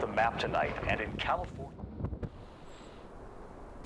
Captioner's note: radio fades out